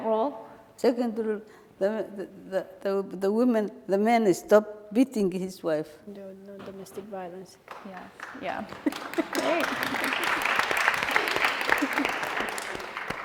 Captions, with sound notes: - And the second rule? - The second rule, the men stop beating his wife. - There would be no domestic violence, yeah. (applauding)